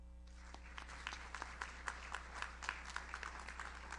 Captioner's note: audience applauds